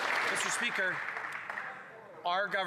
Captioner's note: some Applause